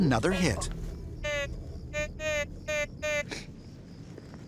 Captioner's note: metal detector squawking